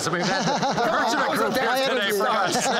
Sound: laughter

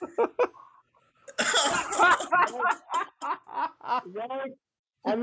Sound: blowing wind

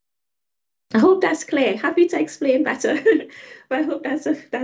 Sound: laughing

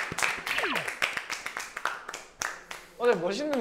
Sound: applause

